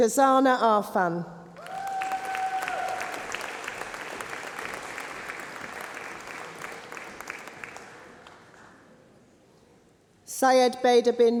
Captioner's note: applause